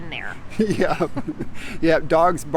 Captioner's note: chuckling